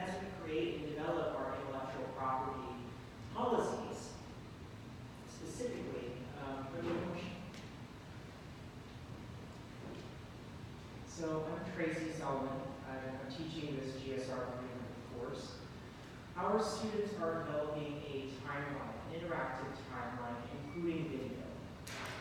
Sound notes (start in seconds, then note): 5.9 mic distorts speech